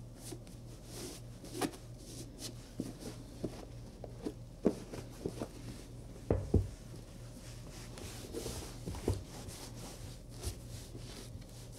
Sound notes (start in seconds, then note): 6.2 shoe softly thumps; 7.2 cloth resumes wiping